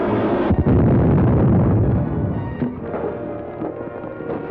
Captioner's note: jet mobile exploding